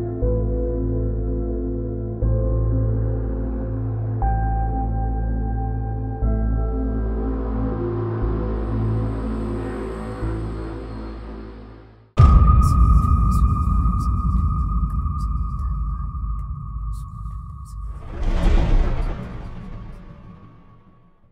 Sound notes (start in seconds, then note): 12.2 logo booming; 12.4 eerie whispering; 18.3 logo clattering